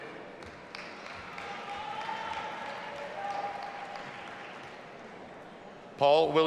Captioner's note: audience applauding and cheering